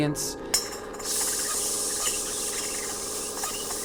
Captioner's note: metal rattle